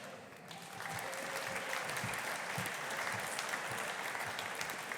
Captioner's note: audience applauding